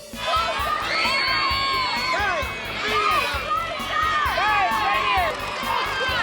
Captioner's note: crowd shouting